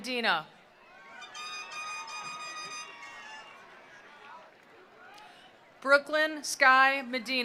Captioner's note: attendees cheering; attendees applauding